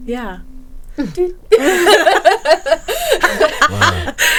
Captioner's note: laughing